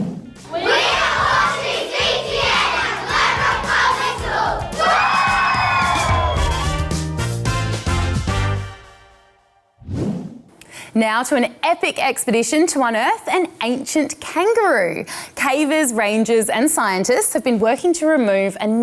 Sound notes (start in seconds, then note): 3.7 all whoop